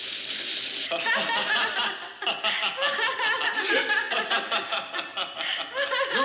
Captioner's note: laughter